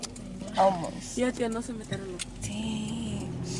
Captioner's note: speaks in foreign language; speaking in foreign language